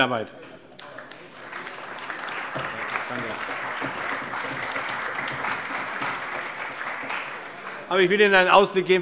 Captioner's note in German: Allgemeiner Beifall